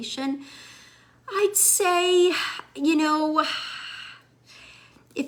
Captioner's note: sighs